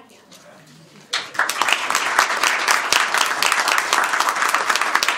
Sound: applause

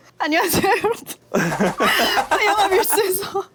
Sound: haha

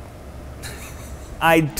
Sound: man laughing

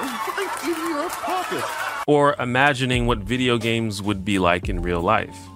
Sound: audience laughter

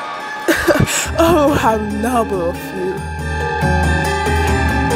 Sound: velk laughs

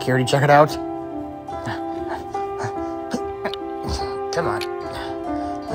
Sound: Muldoon panting

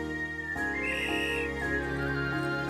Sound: whistle blows

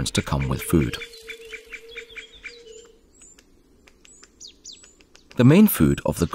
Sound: sounds of nature

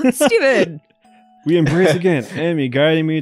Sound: cackles; giggles

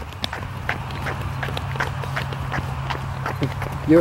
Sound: scuffing feet

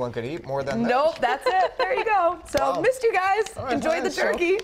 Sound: laughter

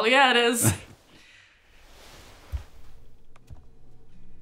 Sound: laughs; Benson laughs

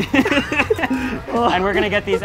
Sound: chuckles

